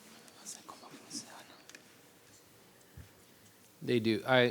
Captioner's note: interpreter speaking in foreign language